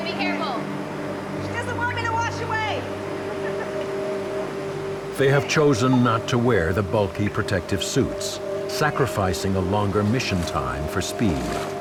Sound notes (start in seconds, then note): 3.2 laughing